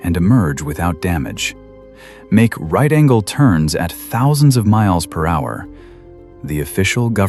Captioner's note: breath